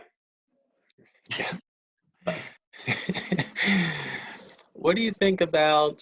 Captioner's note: laughing